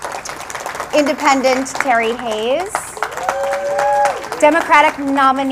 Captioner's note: applause